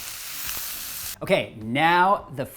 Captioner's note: vegetables sizzle